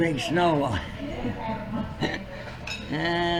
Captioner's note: laughs